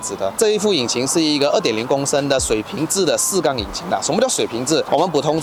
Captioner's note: boxer engine